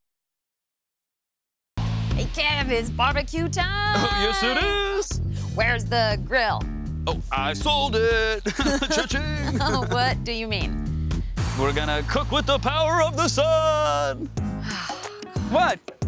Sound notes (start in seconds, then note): 8.4 chuckles; 14.6 sighs